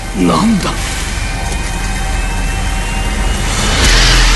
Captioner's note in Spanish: sonido de motor acendiendo, silbido